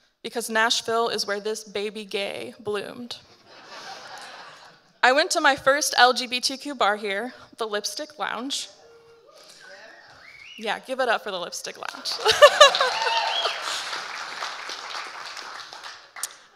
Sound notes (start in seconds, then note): 3.5 audience laughing; 9.3 audience members cheer and whistle; 12.1 laughing; 12.2 audience applauding and cheering